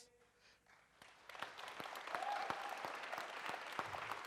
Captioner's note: audience applauds